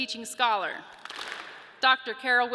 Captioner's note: audience claps